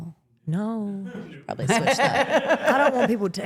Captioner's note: laughs